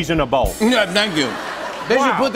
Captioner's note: laughter